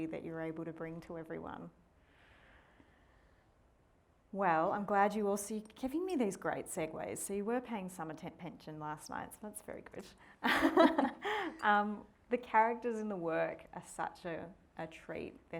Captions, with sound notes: that you're able to bring to everyone. Well, I'm glad you also, giving me these great segues. So you were paying some attention last night. So that's very good. (both laughing) The characters in the work as such a treat.